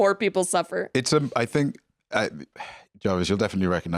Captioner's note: sighs